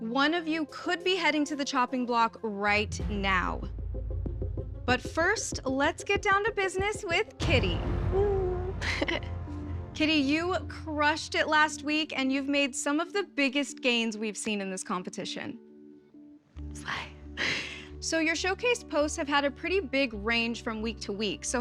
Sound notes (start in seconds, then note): 8.8 giggles; 15.5 sighs